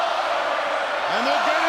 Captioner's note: crowd chants